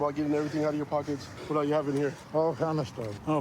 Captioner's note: none